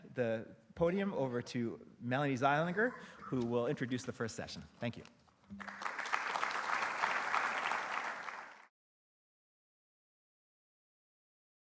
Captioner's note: applause, approaches